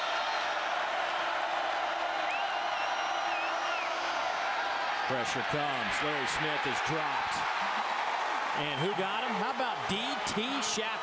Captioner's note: crowd noise